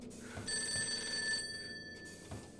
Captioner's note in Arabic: رنين الهاتف